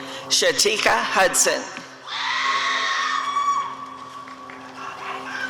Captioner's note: audience cheering